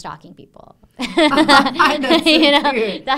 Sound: laughing

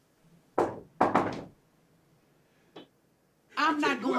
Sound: someone knocks at the door

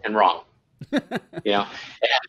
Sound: laughs

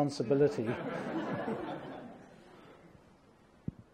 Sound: laughter

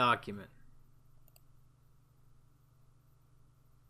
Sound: long pause

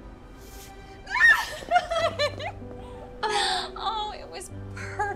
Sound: squealing

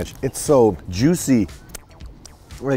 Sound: licks fingers

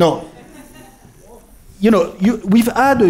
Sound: laughter

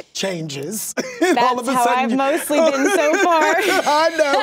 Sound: laughs

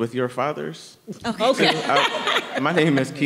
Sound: everyone laughing

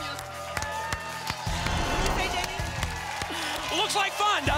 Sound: applause

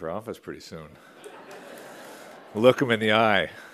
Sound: laughter

